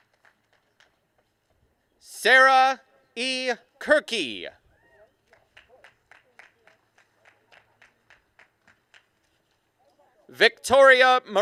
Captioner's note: applause and cheering